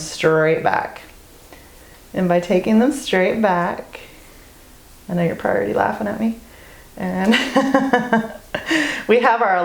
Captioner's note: laugh